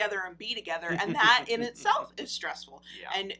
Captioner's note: laughs